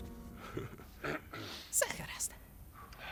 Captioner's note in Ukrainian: Прочищає горло